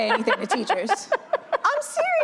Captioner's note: laughter